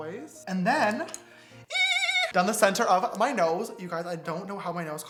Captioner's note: man screeches